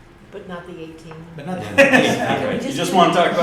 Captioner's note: laughter